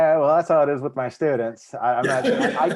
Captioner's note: laughing